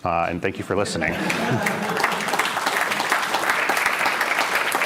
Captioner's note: laughter, applause